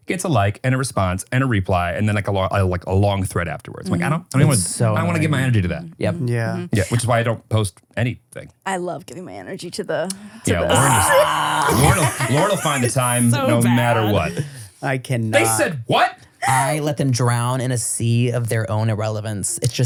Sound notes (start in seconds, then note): 10.2 laughs